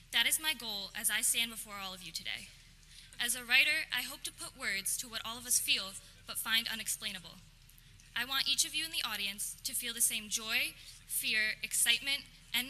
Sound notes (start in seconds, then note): none